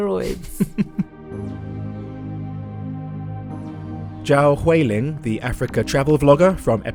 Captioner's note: voiceover